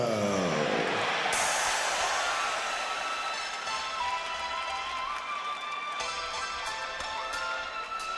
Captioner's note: cheers and applause